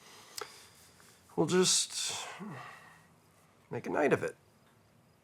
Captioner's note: sighs